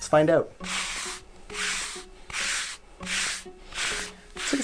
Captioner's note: fabric swish